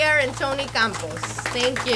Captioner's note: audience applauds